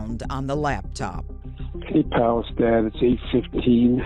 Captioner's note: on phone